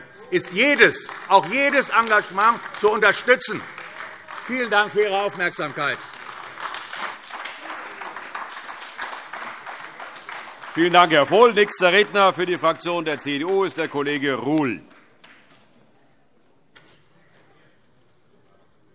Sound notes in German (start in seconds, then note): 5.9 Beifall AfD